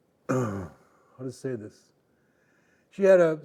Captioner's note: clearing throat